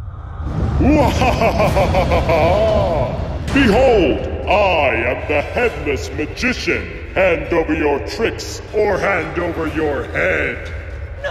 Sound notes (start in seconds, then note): 0.7 laughs menacingly